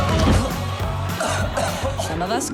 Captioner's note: coughs